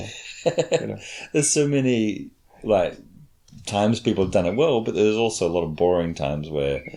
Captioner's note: chuckles